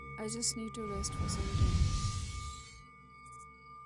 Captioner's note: tibetan Bell Sound; tibetan Bell Sound